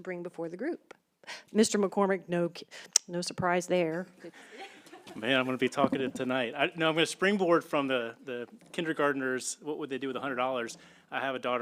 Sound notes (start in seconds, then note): 4.4 laughter